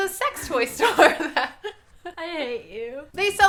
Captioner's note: both laughs